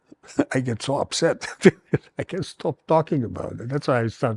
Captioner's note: laughs